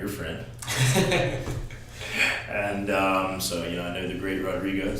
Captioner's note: both laughing